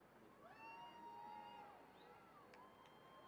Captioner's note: applauding